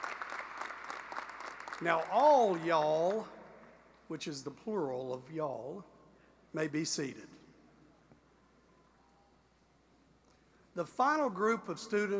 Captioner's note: applause